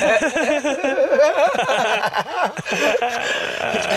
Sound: laughing loudly

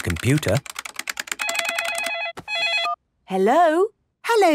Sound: phone ringing

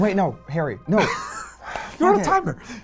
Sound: laughs

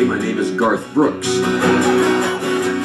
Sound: audience laughter

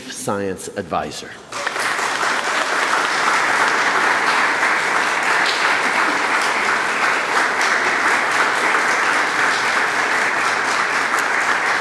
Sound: applause

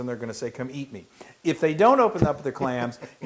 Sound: laugh

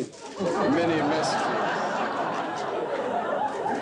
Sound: audience laughing

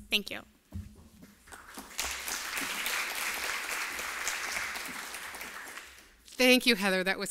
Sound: applause

